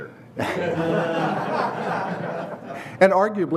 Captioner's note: laughter